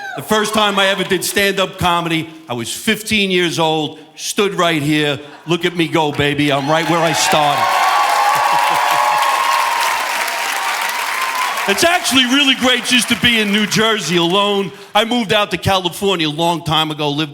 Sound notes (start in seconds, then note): 8.5 audience cheering and applauding